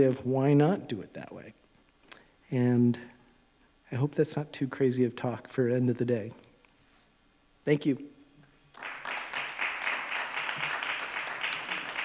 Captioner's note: applause